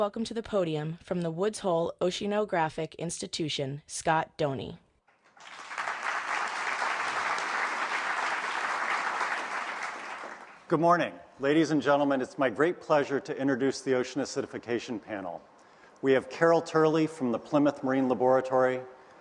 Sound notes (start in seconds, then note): 5.1 applause